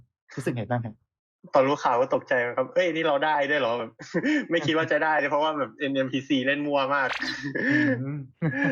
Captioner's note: laughs